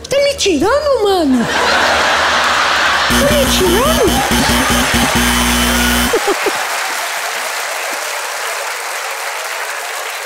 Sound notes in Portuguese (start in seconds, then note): 5.0 campainha; 6.1 aplausos